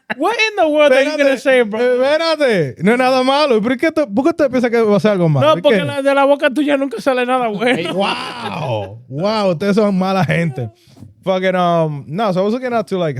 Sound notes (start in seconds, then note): 2.8 speaking In Foreign Language